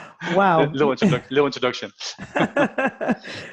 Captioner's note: laughter